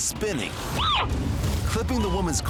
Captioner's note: screams